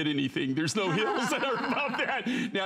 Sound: laughter

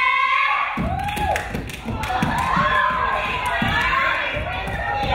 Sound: crowd cheering

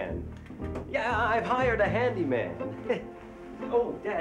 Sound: chuckles

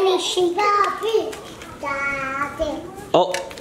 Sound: baby babbling

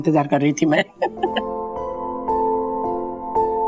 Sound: chuckles

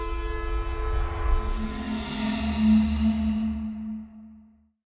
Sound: whoosh, music fades

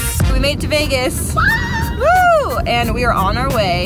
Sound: both yelling

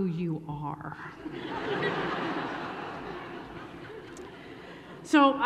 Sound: laughter

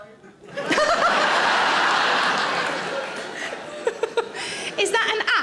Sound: audience laughs; Sarah laughs

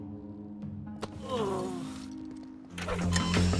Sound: groaning; beeping, music playing

